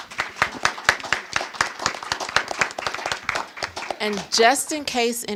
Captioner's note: audience applauding